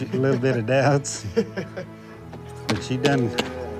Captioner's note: chuckling